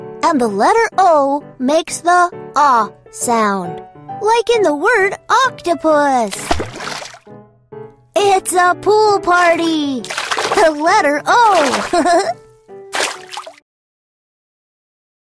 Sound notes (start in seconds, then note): 6.3 water splashing; 11.6 laughs; 12.7 water splashing